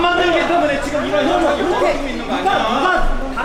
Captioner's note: people arguing